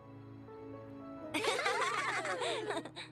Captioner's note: giggles